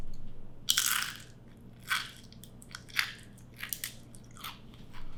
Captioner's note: carrot bacon crunching